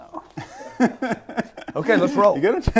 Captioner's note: laughing